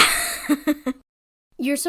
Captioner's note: laughs